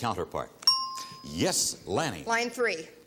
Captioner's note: ting